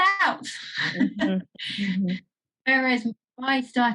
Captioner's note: laughs